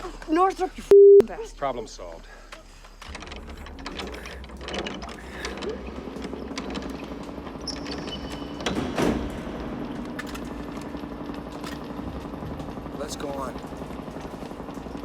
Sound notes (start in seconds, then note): 5.0 generator Humming